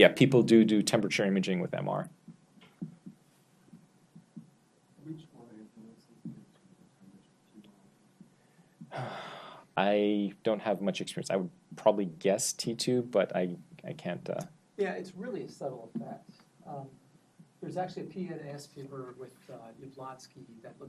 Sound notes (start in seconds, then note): 8.8 sighs